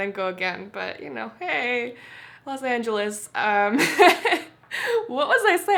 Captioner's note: laughs